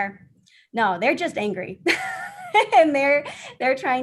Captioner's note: laughter